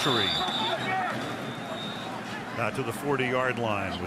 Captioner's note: whistle blowing